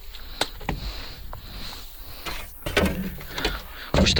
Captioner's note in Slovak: smrkanie